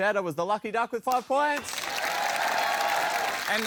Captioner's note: cheering, applause